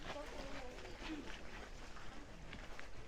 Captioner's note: none